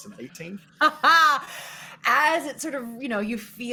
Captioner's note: laughs